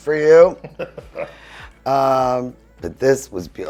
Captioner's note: laughing